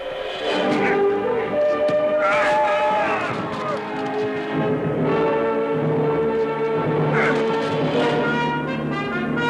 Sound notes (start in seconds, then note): 2.1 yelling